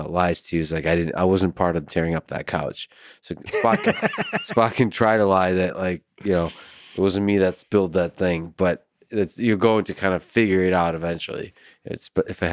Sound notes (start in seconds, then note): 3.4 laughs